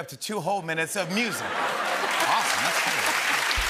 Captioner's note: laughter and applause